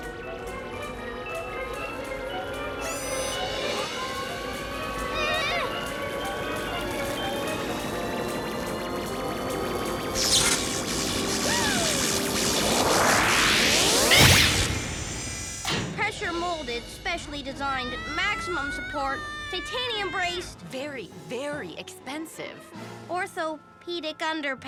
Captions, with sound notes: (mystical music) (machines whirring) (electricity zapping) (Owen's mother gasps) (machine zaps) Pressure-molded, specially designed, maximum support, titanium braced- - Very, very expensive. - Orthopedic underpants.